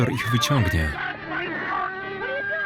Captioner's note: speaking in foreign language